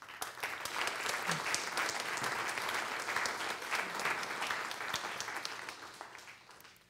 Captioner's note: applause